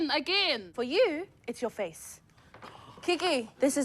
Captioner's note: gasps